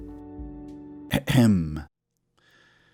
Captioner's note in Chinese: 咳嗽